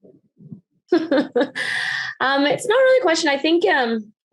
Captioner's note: laughs